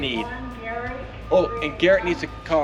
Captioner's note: intercom Announcement